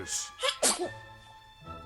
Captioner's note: comical sneeze